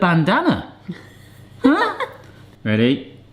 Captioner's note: laughs